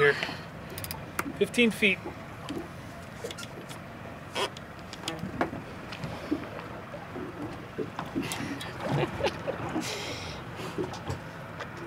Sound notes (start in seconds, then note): 3.1 chuckling; 8.2 reel cranking